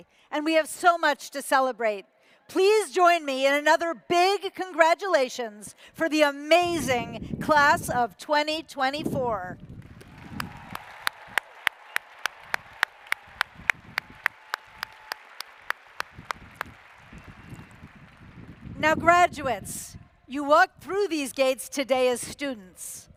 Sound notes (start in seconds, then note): 9.7 applause